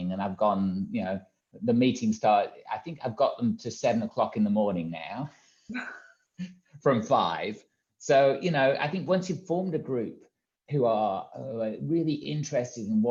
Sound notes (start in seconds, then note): 6.2 laughs